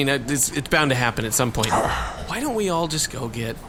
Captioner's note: Zwog sighs